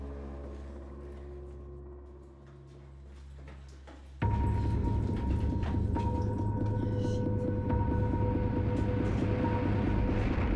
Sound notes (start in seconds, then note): 3.9 footsteps running; 5.5 soft ominous music